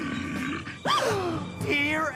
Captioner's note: Heather Gasp